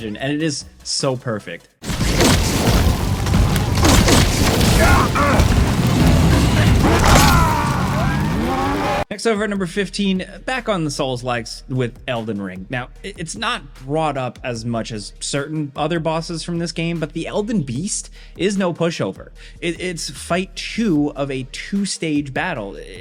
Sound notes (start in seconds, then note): 1.8 gun blasting; 1.9 dramatic music; 5.9 snake grunting; 7.2 Man on Fire roaring; 7.2 Snake groaning